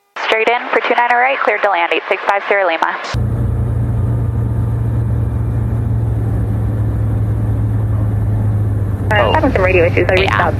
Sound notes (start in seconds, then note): 2.7 plane engine whirring; 9.1 beeping noises